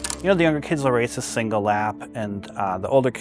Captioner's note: none